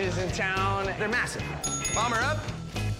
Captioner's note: bell dings